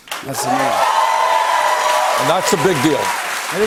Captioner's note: cheers and applause